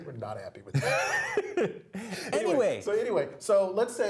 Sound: laugh

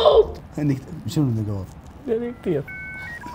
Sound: processing noises

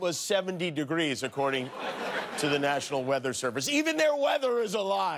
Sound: laughter

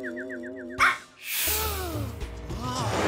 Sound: robotic barking; gasps

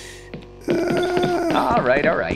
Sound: laughs

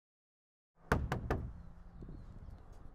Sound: knocking

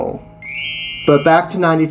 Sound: chime sound

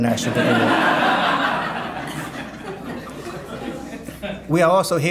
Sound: audience laughing

